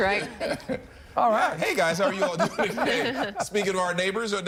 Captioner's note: laughter